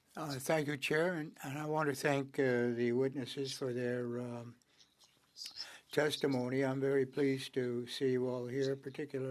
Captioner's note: speaking French